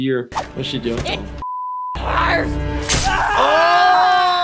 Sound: beep

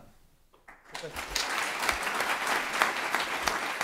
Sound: applause

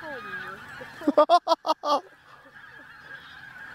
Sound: giggles

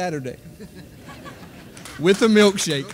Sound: audience laughing; audience applauding

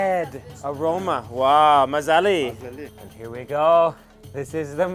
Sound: in foreign language

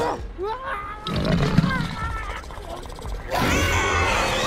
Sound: Scorpius Rex growls; pilot screams in agony

